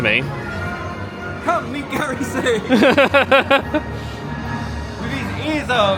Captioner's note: laughing